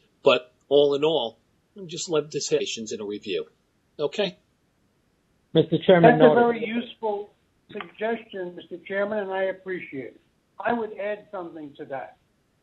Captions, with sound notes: But all in all, let me just let this (murmurs) in a review. Okay. Mr chairman That's a very useful suggestion Mr. chairman and I appreciate it. I would add something to that.